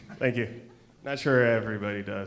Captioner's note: audience and panelists laugh